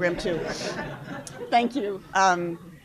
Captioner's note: laughter